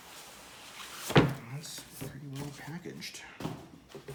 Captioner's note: thud